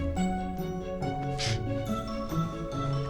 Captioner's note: sniffs